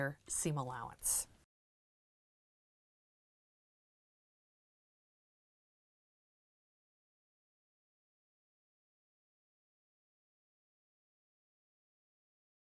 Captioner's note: no Sound Present